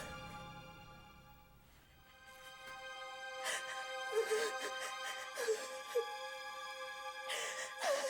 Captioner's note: crying